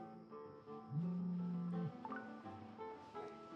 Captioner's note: phone vibration and alerts